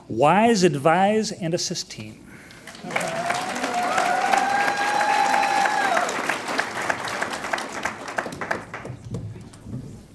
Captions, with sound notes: Wise Advise + Assist Team. (audience cheers and applauds)